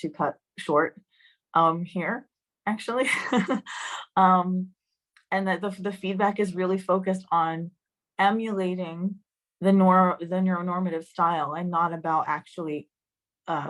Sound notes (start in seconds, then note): 3.0 laughter